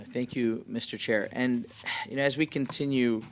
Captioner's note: speaking french